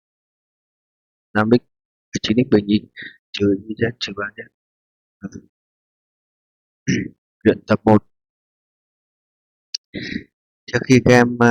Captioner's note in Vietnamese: hắng giọng